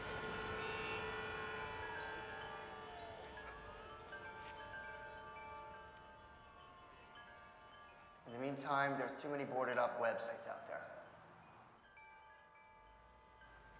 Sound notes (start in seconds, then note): 1.8 metal chimes; 8.1 voiceover